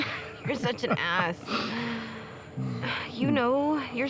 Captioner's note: laughs